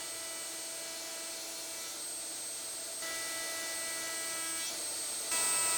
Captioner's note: high-speed tablesaw whirring